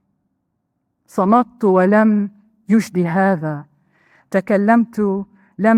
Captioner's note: speaking in foreign language